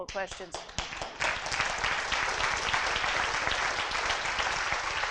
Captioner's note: audience applauding